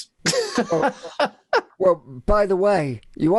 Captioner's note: laughing